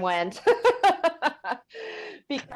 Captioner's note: laughs